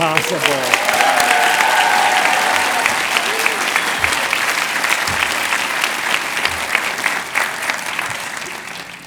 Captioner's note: cheers and applause